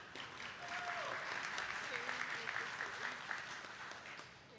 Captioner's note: attendees clapping